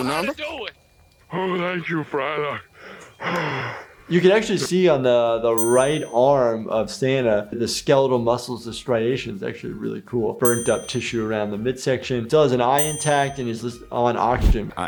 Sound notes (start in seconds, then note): 2.7 heavy breathing